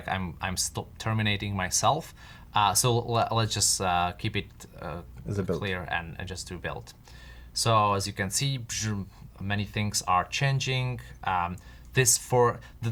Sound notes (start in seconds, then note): none